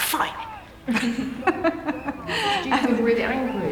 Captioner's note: laughing